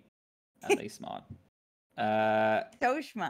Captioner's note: laughs